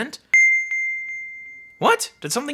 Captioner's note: bell dinging